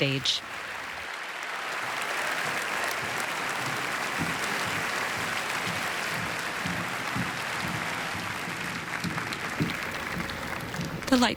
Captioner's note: applause